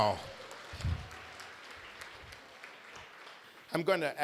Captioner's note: applause